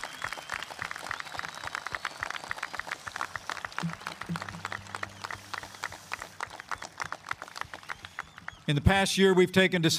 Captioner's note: applause